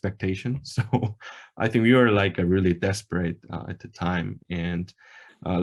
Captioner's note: laughs